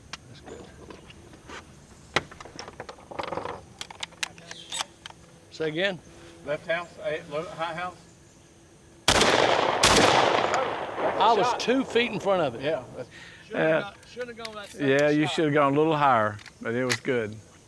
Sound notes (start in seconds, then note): 3.3 gun clattering; 9.0 shots banging